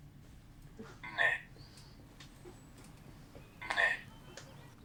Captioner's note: achmet – artificial male voice